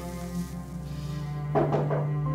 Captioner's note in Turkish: kapı tıklatma sesi